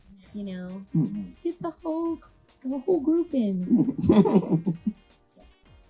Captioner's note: laughs